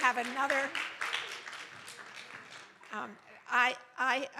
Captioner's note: applause